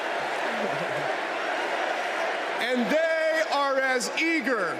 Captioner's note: crowd chanting